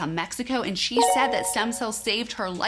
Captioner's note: chime tinkling